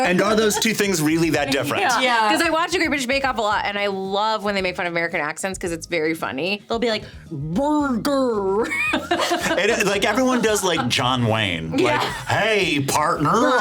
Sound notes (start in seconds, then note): 8.6 laughing